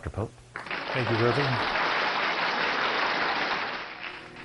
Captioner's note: clapping